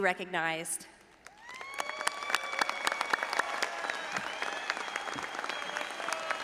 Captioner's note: all applauding and audience cheering